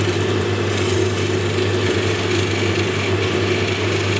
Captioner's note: machine whirring